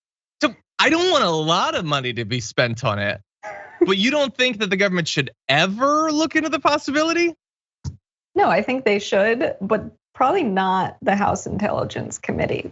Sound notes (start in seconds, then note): 3.5 laugh